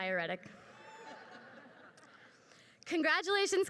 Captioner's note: crowd laughs